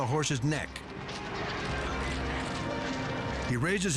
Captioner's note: hooves thudding